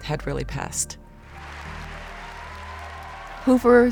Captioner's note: applause